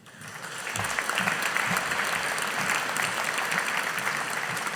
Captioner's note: audience applauding